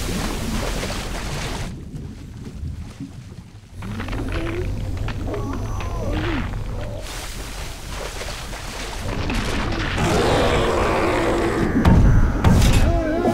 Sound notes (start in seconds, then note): 3.7 crackling; 9.7 roaring; 11.8 banging